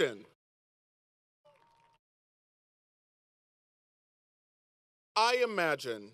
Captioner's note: applause